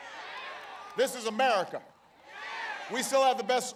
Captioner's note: applause